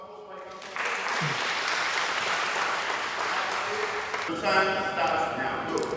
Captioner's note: applause